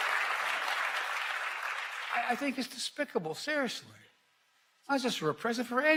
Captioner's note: applause